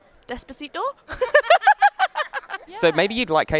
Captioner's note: laughing